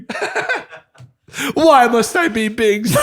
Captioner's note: laughter